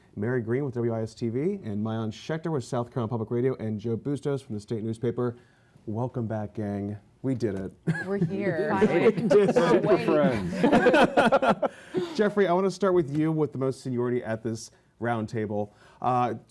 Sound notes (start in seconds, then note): 7.8 laughter